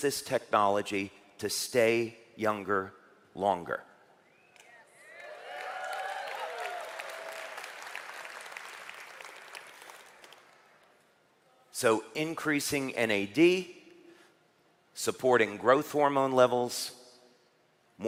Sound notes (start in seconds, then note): 5.1 เสียงปรบมือ